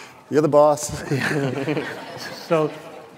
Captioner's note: laughter